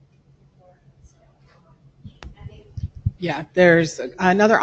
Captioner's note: woman mumbling